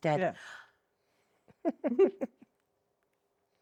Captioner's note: laughs